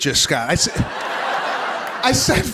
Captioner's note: laughter